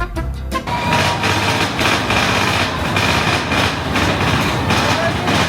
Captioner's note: loud crackling noises